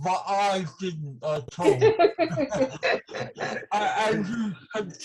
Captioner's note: laughing